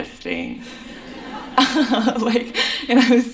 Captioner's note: laughter